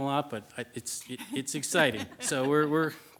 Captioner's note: group laughs